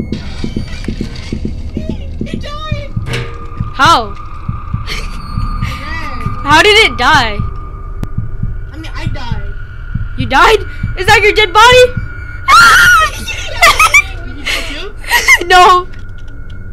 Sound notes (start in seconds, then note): 4.4 laughs; 15.5 laughing